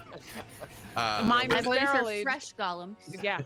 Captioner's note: group laughing